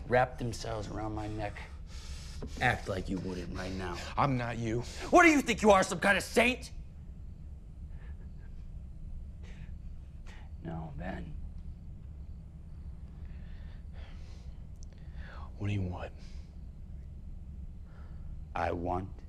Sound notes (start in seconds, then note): 7.4 crickets chirping; 7.4 tense music; 11.6 crickets chirping; 11.6 tense music